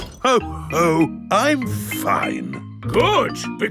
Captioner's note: none